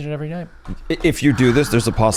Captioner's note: sighs